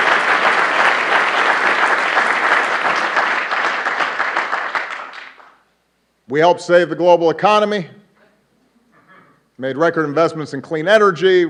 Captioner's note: applause